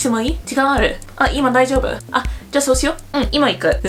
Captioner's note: speaks hyper casually